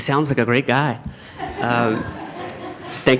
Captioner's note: laughter